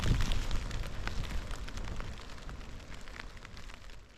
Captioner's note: rain